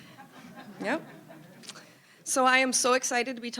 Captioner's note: audience laughing